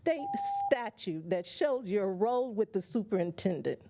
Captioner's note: buzzer